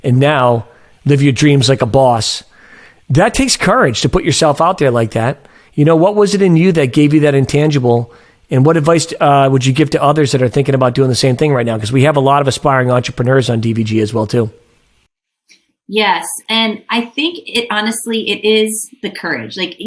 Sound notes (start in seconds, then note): none